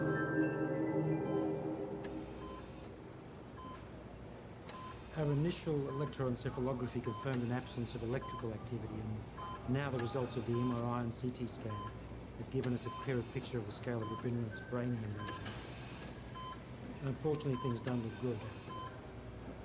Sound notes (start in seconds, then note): 2.0 heart rate monitor beeps